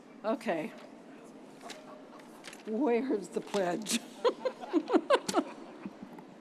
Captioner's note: chuckles